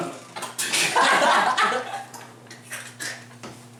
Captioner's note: burst into laughter